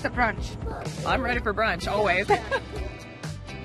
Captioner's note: laughs